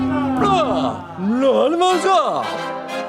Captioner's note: man speaking in another language